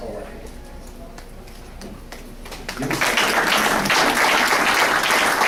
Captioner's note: applause